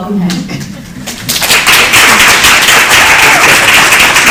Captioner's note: audience cheering and applause